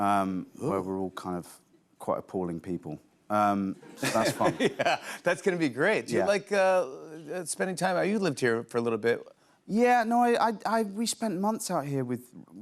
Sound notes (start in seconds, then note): 3.8 laughter